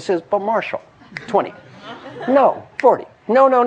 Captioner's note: laugh